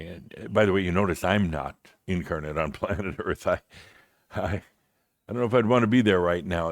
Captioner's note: Adamus chuckles